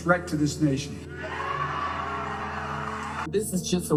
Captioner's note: crowd cheering